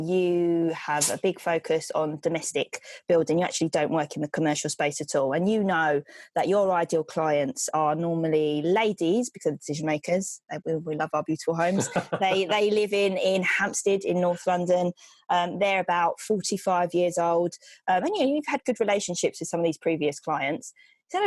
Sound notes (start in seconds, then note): 11.6 laughs